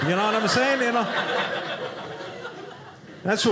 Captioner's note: audience laughing